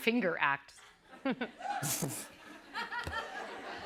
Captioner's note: laughter